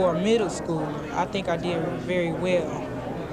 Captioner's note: loud indistinct crowd talking